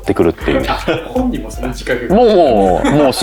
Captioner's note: laughs